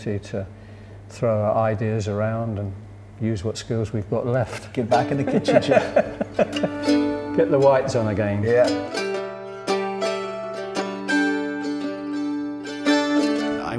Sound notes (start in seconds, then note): 5.0 both laughing; 9.1 relaxed guitar music